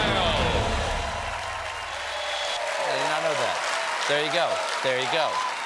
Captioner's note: cheers and applause